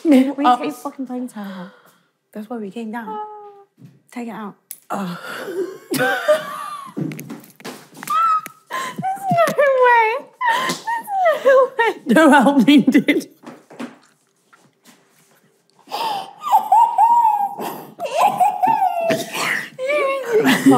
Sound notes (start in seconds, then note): 5.5 laughing; 16.0 laughing